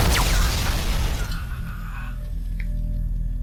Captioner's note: electricity booming